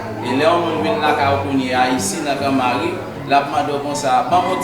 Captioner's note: speaking in foreign language